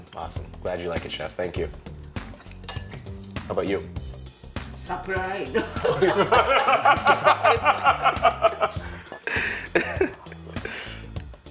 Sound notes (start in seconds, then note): 5.6 laughs